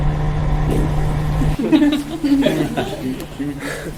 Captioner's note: everyone laughs